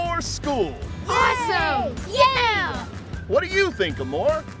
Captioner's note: cheering